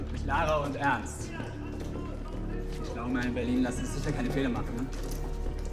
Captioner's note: speaking in foreign language